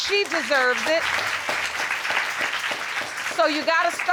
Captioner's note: applause